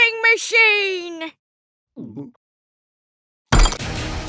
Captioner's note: gulps